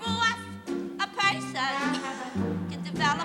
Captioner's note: coughs